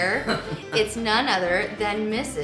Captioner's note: laughing